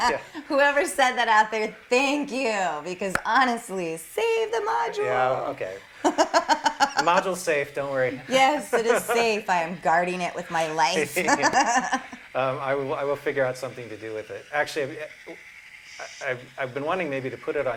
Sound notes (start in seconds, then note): 6.0 laughter